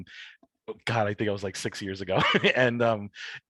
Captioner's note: chuckles